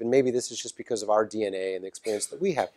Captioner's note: cough